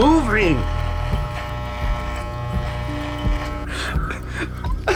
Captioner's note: shaver buzzes